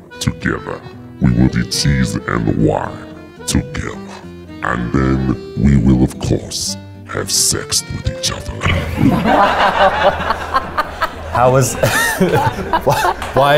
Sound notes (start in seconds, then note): 8.6 audience laughs; 11.6 snickers